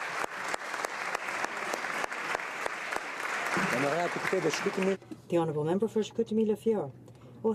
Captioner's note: applause